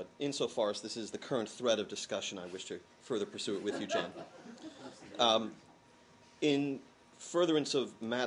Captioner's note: laughter